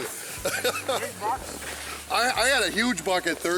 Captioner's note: laughs